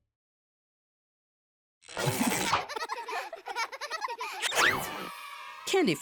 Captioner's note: children laughing